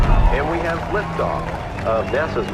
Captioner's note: crowd cheering